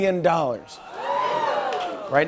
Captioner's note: cheers, gasping